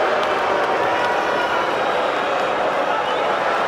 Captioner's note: crowd boos